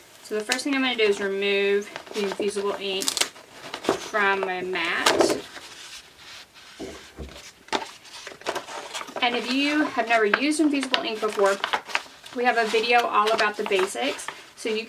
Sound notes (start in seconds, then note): 4.4 mat wobbles